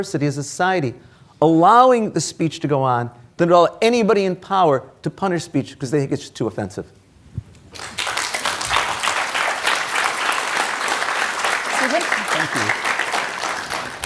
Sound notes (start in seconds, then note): 7.7 audience applauding